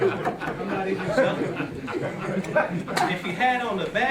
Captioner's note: laughter